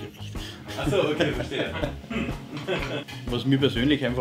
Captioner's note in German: Moderator lacht